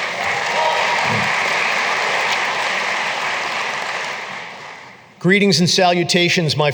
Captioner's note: applause